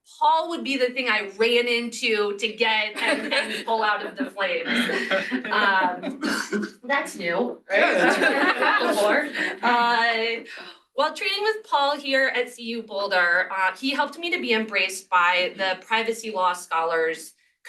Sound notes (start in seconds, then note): 4.7 laughter